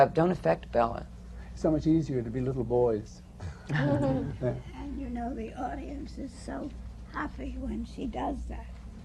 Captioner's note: laughter